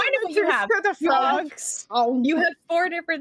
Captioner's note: speaking together